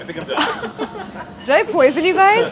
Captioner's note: all laughing